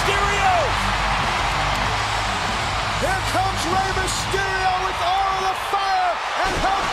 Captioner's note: applause